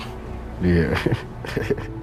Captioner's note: giggles